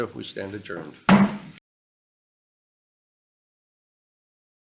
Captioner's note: gavel bangs